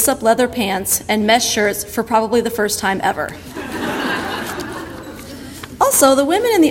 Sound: audience laughter

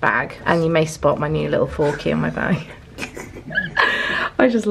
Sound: laughs

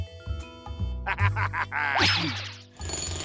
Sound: laughs

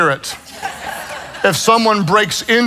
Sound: congregation laughs

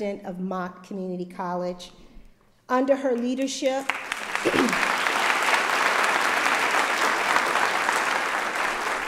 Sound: applause

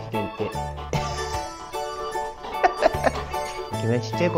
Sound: laughs

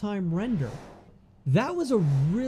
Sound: whooshing

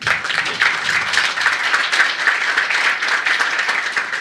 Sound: applause

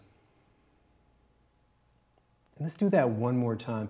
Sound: exhales

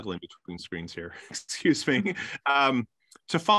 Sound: chuckles

